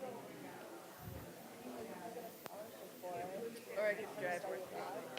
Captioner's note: audience chattering softly